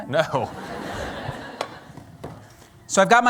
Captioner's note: laughter